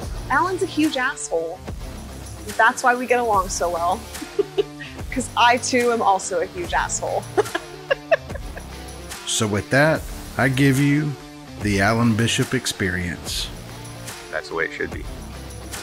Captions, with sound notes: Alan's a huge asshole. That's why we get along so well. Because I, too, am also a huge asshole. (laughter) So with that, I give you the Alan Bishop Xperience. That's the way it should be.